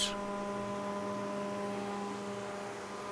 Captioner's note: whirring